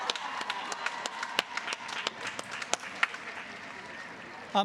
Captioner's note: applause